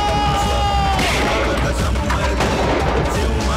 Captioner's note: Gunshot